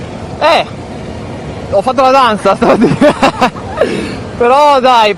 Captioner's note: laughter